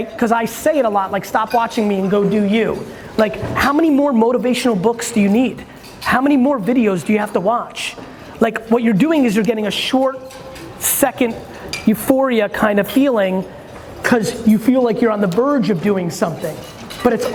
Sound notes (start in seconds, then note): none